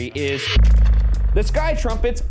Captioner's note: object vibrates